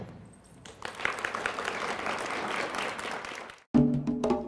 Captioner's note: applause